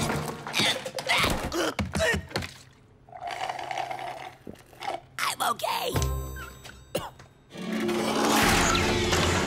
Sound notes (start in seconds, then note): 0.4 choking; 3.0 slurping